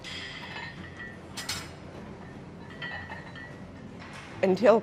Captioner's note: weights clanking